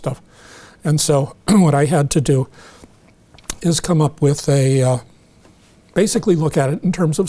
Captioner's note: clears throat